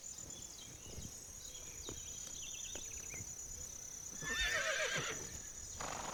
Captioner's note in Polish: rżenie zniecierpliwionych koni